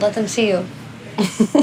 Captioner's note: laughing